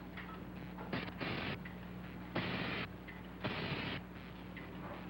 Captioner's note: electricity crackling